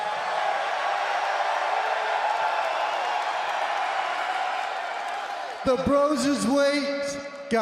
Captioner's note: crowd cheering